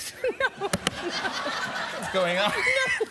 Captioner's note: laughter